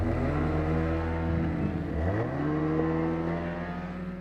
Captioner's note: vehicles revving